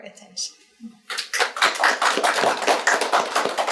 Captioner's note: audience claps